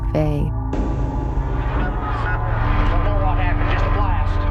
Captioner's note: bombs exploding